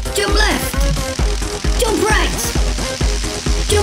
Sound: electricity crackling

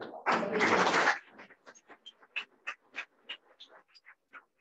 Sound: audience clapping

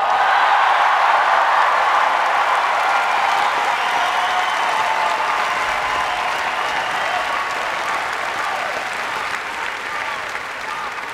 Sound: applause, Chanting

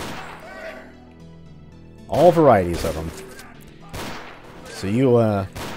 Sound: Revolver shot, Ripper alert noises

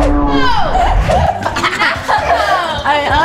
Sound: both laughing

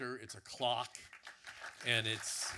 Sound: audience clapping

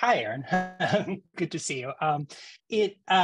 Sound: laugh

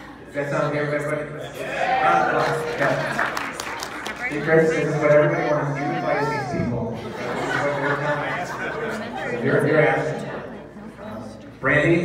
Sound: applause

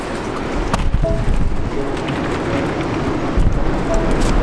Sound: tripod bumping

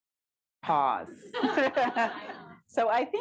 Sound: laughter

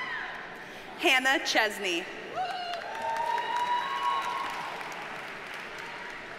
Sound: audience cheers and applauds

